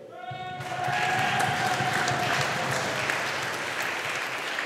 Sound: audience applauding

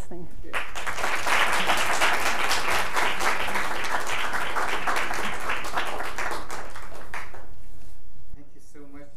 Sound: applause

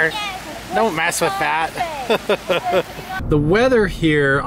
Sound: laughs

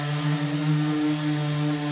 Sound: sanding sounds

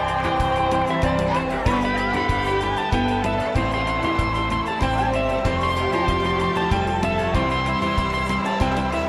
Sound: cheering

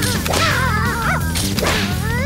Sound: barking

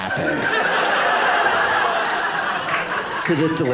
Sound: audience laughing

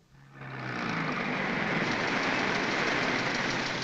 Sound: car rumbling

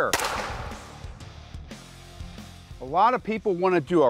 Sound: gun shot

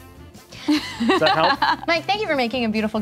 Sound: laughing

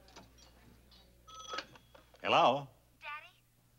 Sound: phone rings

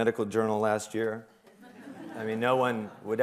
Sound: laughter

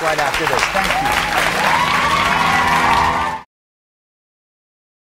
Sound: audience applauding; cheering

